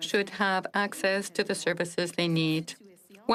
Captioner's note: speaking French